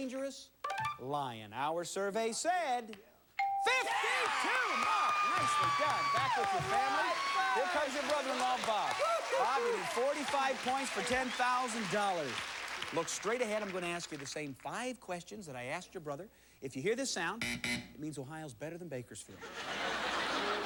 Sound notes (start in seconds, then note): 17.4 buzzer; 19.3 laughter